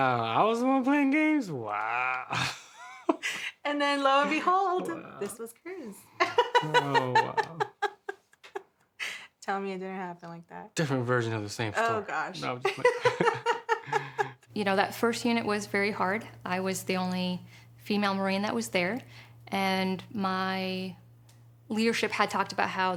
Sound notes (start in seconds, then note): 1.6 chuckles; 6.2 laughing